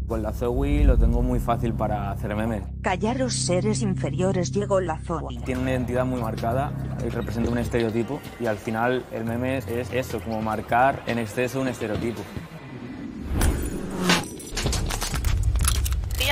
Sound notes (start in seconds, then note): 2.7 robotic voice; 12.0 music and noises